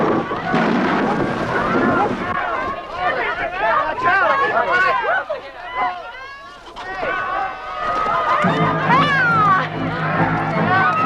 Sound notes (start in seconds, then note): 3.1 people clamoring